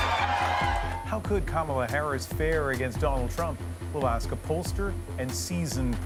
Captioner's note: cheers and Applause